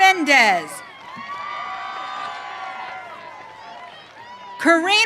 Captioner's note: audience cheering